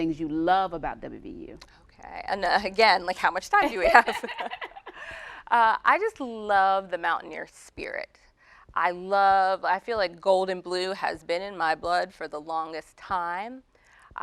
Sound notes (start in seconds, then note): 3.8 laughing